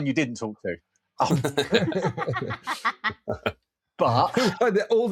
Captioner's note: laughter